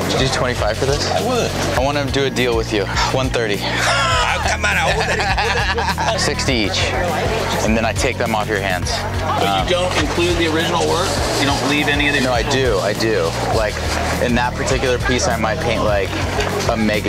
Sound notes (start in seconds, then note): 3.6 laughing